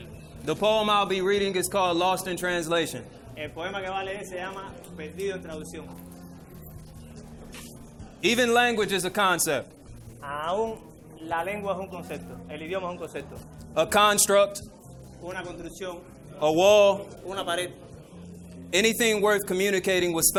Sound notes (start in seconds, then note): 3.5 interpreter speaking in foreign language; 10.6 speaking in foreign language; 15.0 interpreter speaking in foreign language; 17.4 speaks in foreign language